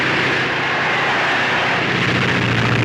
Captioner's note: crowd cheers; airplane motor revving